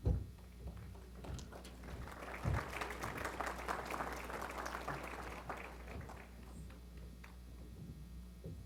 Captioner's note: applause